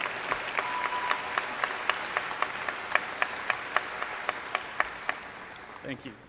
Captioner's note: applause